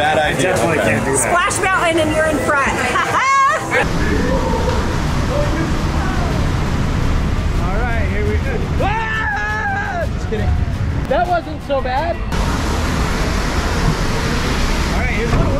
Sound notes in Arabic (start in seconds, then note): 2.8 يضحك; 8.8 صراخ